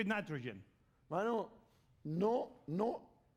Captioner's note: speaking spanish